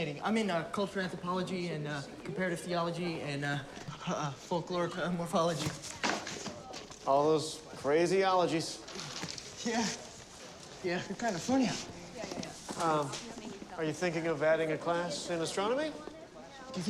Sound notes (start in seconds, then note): 5.0 books clatter